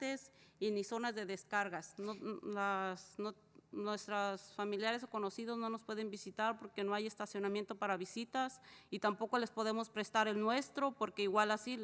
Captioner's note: spanish